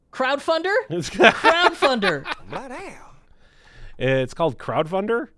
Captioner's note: laughing